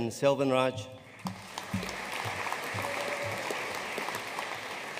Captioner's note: audience applauding